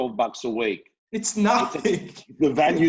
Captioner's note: laughs